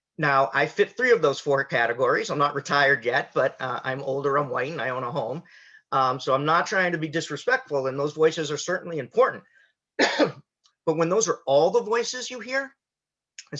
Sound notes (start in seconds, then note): 10.0 coughs